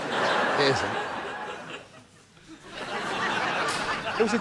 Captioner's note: laughter